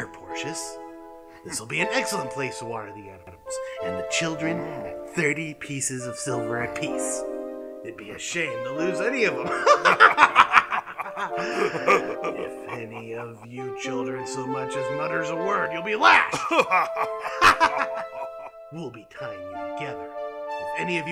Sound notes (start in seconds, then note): 9.4 evil laughing; 16.0 laughing